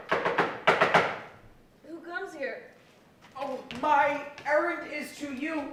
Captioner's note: knocking